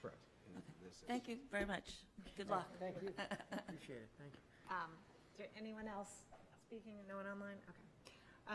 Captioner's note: laughter